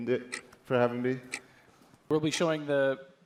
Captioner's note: awkward silence